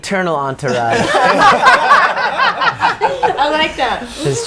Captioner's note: all laughing